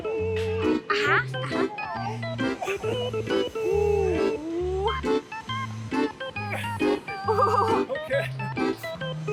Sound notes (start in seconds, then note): 1.7 funny music; 5.1 groaning